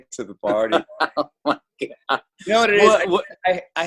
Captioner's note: laughs